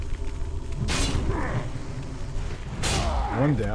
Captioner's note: somber music; grunts